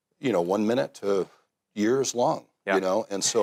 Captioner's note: laughs